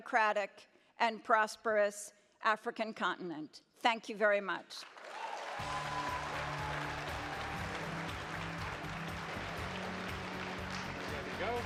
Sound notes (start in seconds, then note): 4.8 audience applauds; 5.6 upbeat music